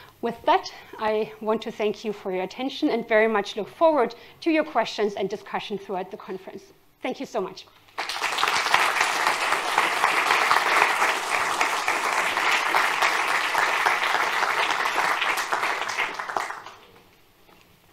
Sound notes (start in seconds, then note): 7.9 applause